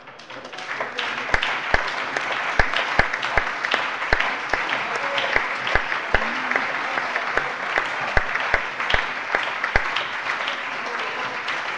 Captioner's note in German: Anhaltender Beifall - Zurufe: Bravo!